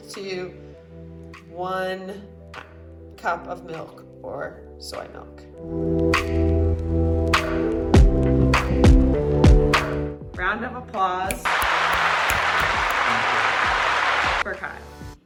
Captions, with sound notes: to one cup of milk or soy milk. Round of applause (snapping fingers and applause) - Thank you. - for Kyle.